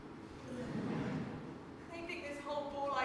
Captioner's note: audience laughs